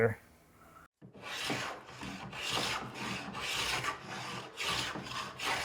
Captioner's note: block plane scratching